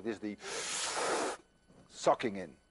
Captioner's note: inhales deeply